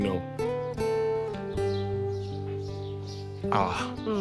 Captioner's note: birds chirping; gentle acoustic music